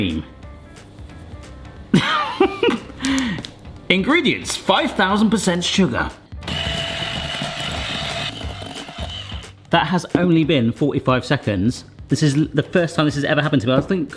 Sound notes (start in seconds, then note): 0.7 light music; 2.0 laughing; 6.4 mixer whirring